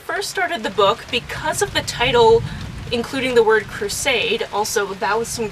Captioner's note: big thunder sound